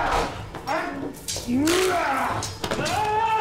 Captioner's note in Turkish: Boyun kırma sesi